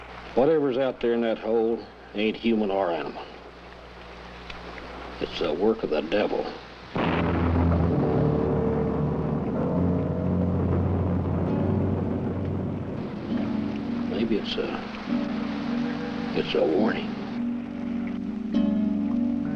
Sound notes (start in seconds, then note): 6.9 thunder crashing; 6.9 ominous music